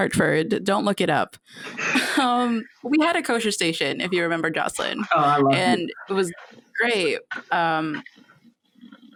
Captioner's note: laughter